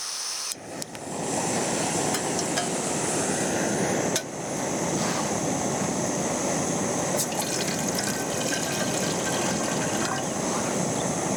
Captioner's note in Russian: шум газовой горелки